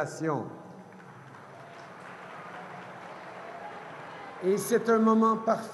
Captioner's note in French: Acclamations et applaudissements